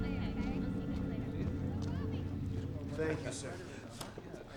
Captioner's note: students chattering